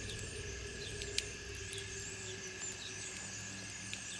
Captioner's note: fire Crackling Continues; crickets Chirping Continues